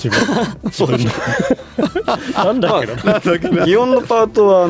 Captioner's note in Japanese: 笑い